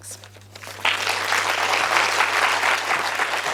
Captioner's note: applause